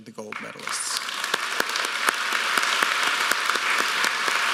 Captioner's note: applause